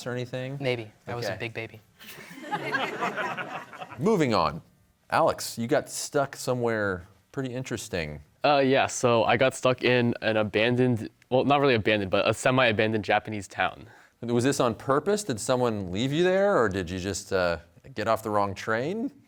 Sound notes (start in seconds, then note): 2.1 all laughing